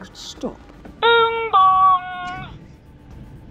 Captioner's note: bing bong!